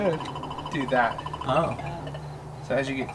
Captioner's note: machine beeps